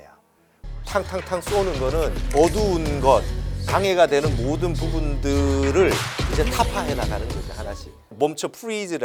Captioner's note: bang! Bang! Bang!